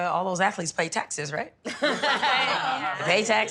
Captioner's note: laughing